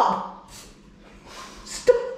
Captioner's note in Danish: kompressor luft lyde